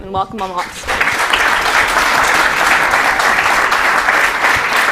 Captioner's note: applause